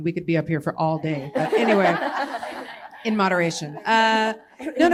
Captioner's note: laughter